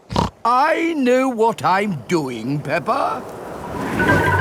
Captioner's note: snorts